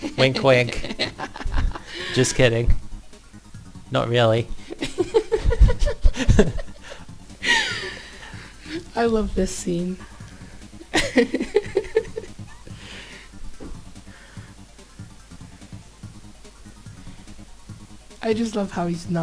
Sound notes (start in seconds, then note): 4.7 both giggle; 10.8 laughs